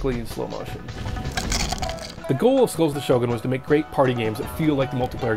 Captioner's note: Crunch